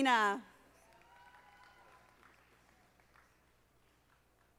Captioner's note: audience applauding